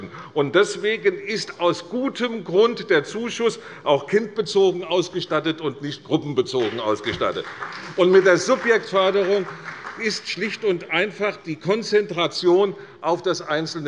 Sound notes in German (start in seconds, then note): 6.6 Beifall bei Abgeordneten der CDU